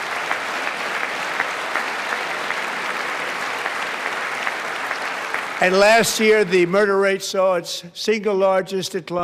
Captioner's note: applause